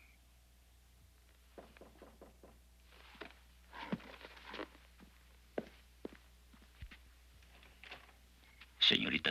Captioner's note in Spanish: toques a la puerta